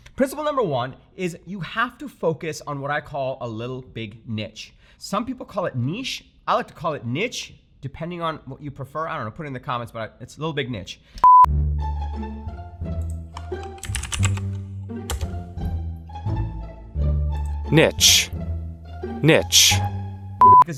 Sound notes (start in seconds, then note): 11.2 whimsical music; 11.2 beep; 13.0 keyboard clicking